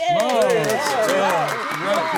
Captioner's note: applause